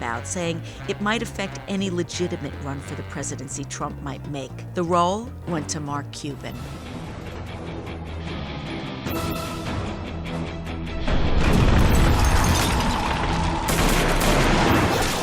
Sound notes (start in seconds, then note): 7.2 dramatic music; 13.6 gunshots